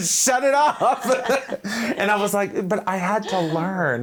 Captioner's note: both laughing